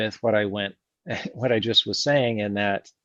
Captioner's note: laughs